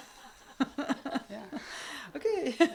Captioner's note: laugh